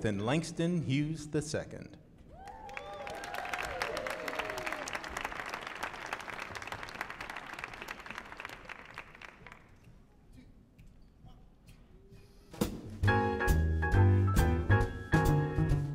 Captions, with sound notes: and Langston Hughes II. (audience applauding) (upbeat jazz music)